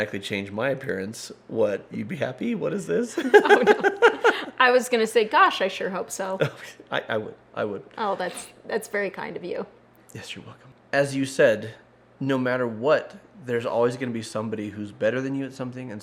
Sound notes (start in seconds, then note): 3.2 laughing